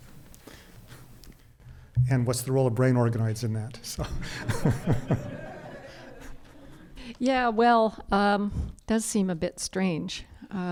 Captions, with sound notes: - And what's the role of brain organoids in that? (crowd and panelists laughing) - Yeah well, does seem a bit strange.